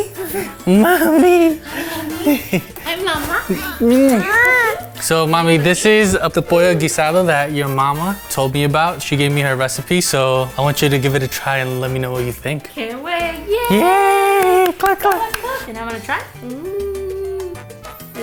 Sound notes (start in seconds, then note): 0.0 child laughing; 3.4 child crying